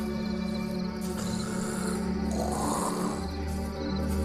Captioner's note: skeletons snarling